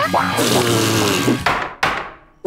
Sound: banging

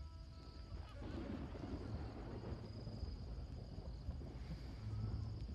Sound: thunder rumbling

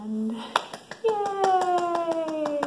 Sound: clapping

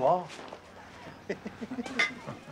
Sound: both chuckling

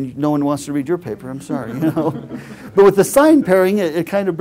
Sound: laugh

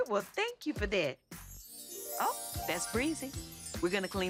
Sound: chimes

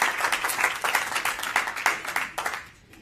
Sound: applause

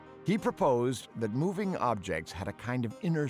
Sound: none

